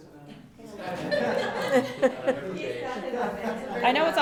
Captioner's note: laughing